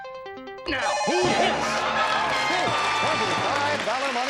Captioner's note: beep